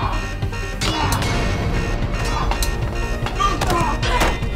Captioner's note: alarm blaring continues; suspenseful music continues